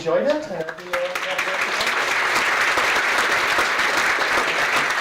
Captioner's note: audience clapping